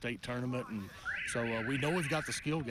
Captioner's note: alarm screeching